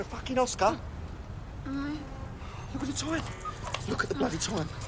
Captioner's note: moaning